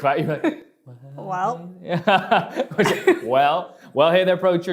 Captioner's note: whispering